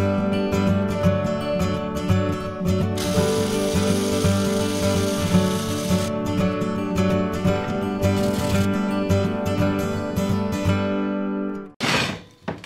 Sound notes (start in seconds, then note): 3.0 welding; 7.8 upbeat acoustic music